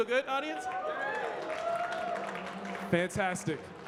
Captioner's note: audience cheering and clapping